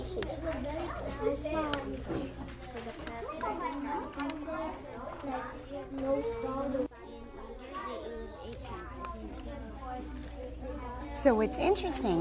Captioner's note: student Discussing